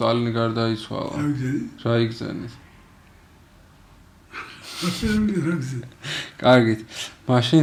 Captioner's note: laughs